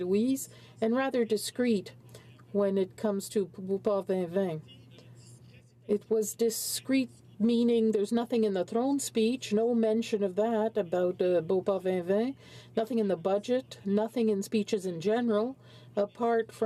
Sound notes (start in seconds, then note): 8.6 speaking french